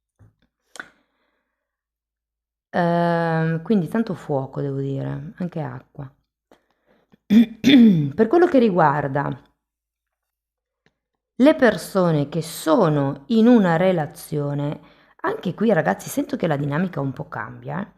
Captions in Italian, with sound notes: Ehm, quindi tanto fuoco, devo dire, anche acqua. [schiarire la voce][tosse] Per quello che riguarda le persone che sono in una relazione. Anche qui, ragazzi, sento che la dinamica un po' cambia, eh.